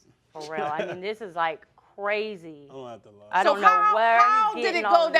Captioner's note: laughing